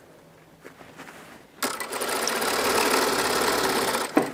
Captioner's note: rattling of the sewing machine